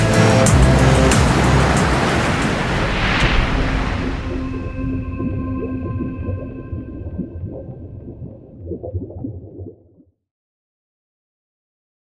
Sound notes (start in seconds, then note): 1.3 water rushing; 5.0 gentle music